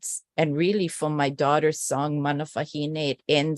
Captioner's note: non-english speech